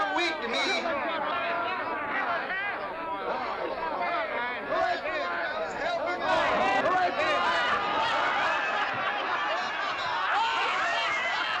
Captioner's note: drunken clamoring